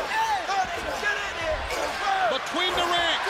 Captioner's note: crowd chatter